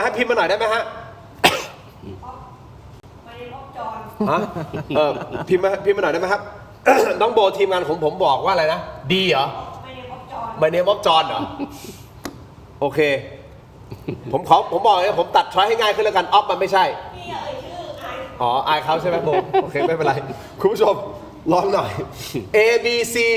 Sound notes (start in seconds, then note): 4.2 laughter; 6.8 clears throat; 18.9 laughter